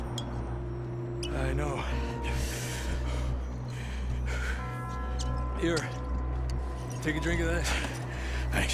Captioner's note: sound of bottle being open